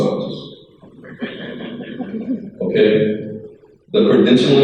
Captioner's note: crowd laughs